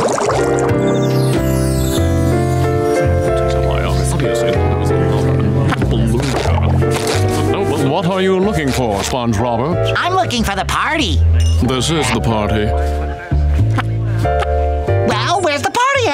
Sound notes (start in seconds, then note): 3.4 indistinct chatter